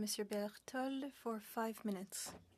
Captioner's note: speaking French